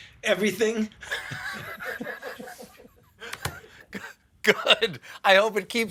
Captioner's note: laughs